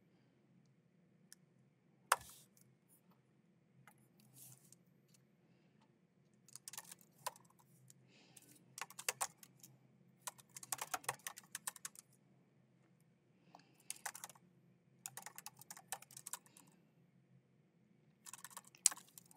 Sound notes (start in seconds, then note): 2.2 keyboard clacking; 10.6 keyboard clacking continues